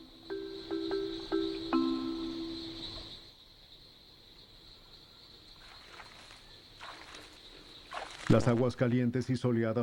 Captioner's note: sonidos de la selva